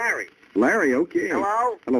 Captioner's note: on phone